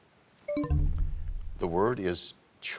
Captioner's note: bell chimes, time expires